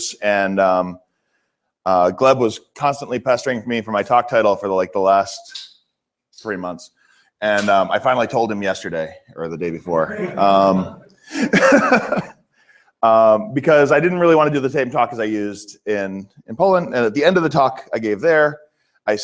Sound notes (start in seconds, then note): 11.3 laughter